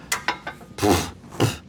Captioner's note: blows Raspberry